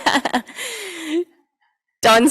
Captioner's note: laughing